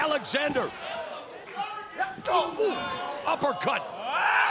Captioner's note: applause